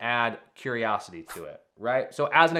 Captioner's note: screen whooshing